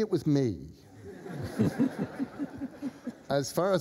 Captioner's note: laughter